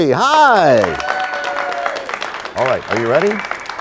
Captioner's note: applause